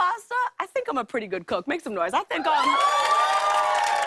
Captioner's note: cheers and applause